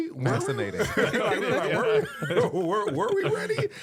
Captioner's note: laughing